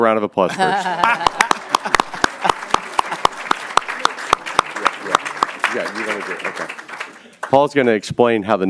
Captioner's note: applause